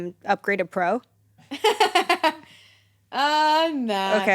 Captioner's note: laughs